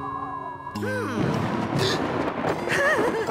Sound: thunderclap!; whimpering

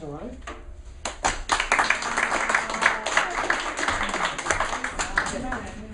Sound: students applauding

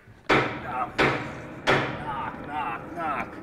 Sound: knocking

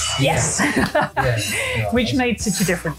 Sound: laughs

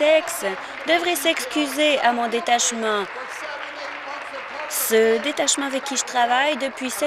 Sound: applause

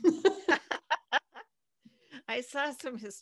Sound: both laughing

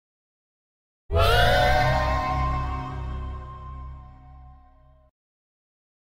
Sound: simply spooky sound

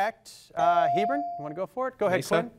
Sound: device dings

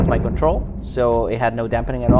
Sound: rig booms

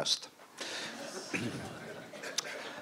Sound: laughter

